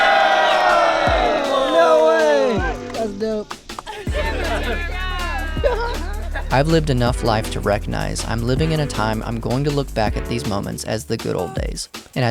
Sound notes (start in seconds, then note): 3.8 crowd cheers loudly; 4.0 crowd chattering loudly